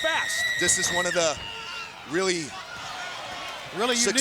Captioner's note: Daffney screaming